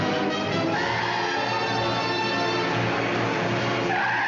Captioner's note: tires screeching